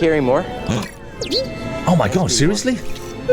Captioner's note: sharp intake of breath